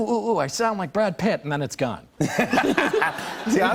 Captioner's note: laughter